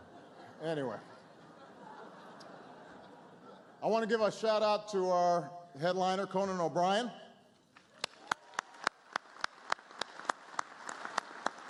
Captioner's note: laughter